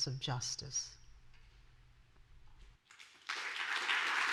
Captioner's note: applause